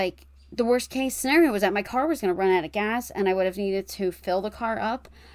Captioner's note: none